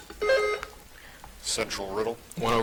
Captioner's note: buzzer chiming